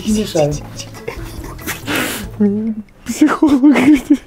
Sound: laughing

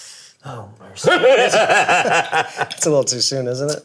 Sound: laughing

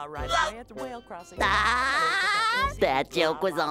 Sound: laughing

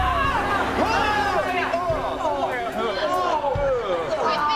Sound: screaming; groaning

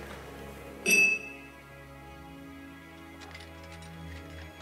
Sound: glasses clinking

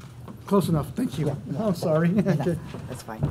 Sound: chuckles

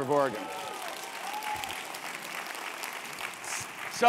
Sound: applause

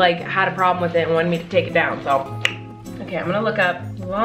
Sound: smacks lips

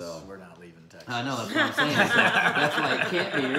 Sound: laughing

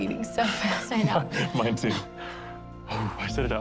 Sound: laughs

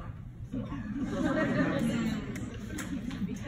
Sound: laughing

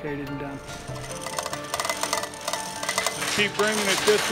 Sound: chains rattling

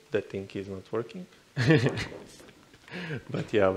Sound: chuckles

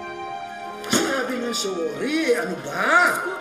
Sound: thumps

